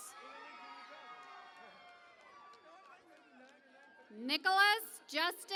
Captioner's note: cheering and Applause